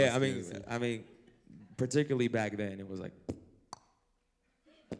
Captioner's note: mouth noises